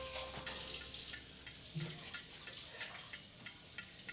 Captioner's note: tap water trickling